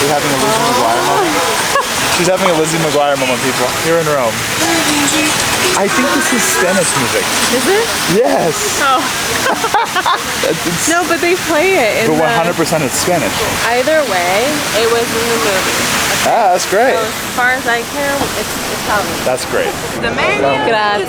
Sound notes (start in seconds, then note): 9.8 both laugh